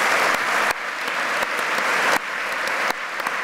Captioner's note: applause